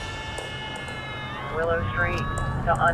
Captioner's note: alarm blaring